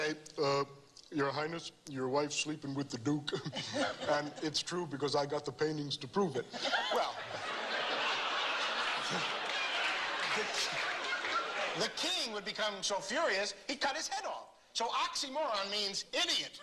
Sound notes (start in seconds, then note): 6.5 laughter